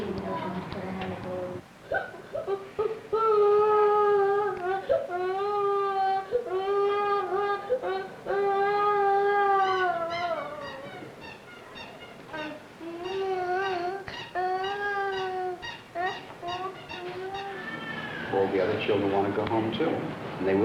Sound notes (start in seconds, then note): 0.0 Spanish speaking; 1.8 crying